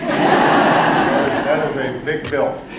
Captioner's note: laughter